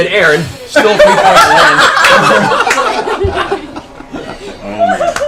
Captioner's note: laughter